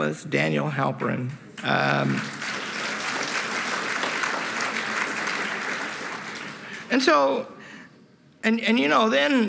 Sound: applause

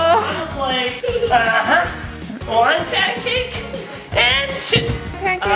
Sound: cracks

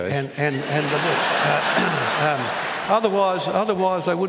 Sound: laughter

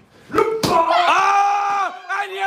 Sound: smack

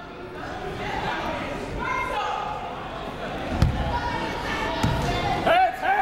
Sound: people shouting in the crowd

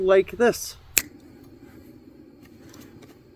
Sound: click

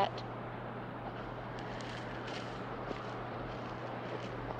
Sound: wind whistles

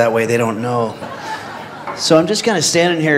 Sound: audience laughs

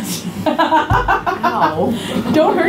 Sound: laughing

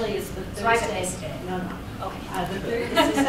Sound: laughter

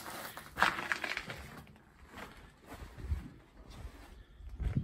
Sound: sound of gravel undefoot

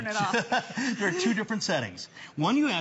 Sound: laughter

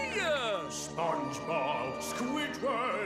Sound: none

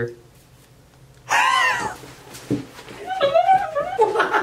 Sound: laughs

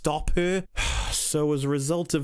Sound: sigh

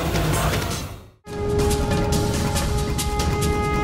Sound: conch blows

